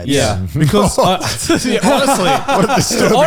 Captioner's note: all laughing